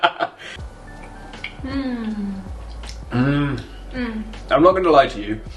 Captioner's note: noises of enjoyment; laughing